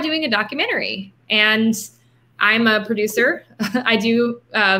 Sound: laughing

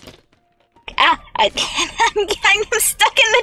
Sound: laughing; wheezy laughing

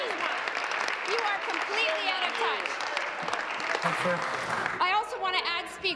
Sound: applause

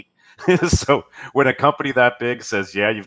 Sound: laughs

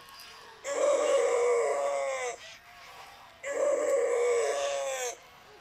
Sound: electronic grunting and crying

